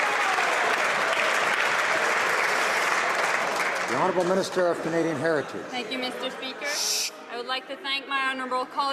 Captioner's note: cheers and Applause